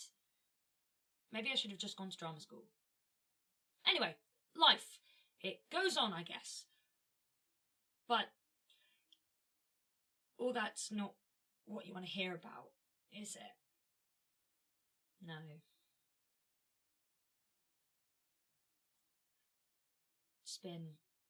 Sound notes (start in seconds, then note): 17.3 a pause